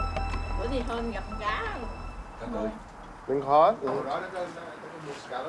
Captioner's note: speaking in a foreign language